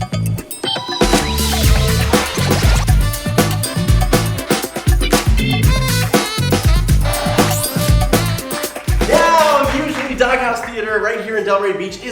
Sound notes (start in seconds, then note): 0.3 upbeat music; 7.7 audience applauding